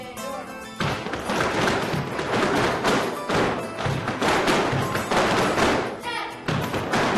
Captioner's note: speaking in Spanish; lively flamenco music; dancers tapping